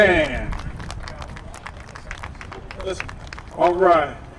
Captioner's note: applause